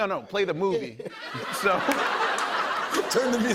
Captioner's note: laughter